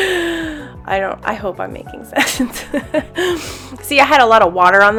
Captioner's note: laughs